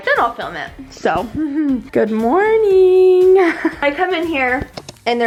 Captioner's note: chuckles